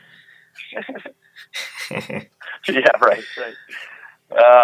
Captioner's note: laughing